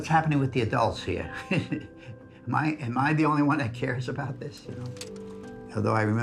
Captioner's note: chuckles